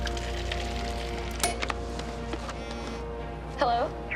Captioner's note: cell phone ringing